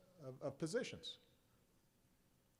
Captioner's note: none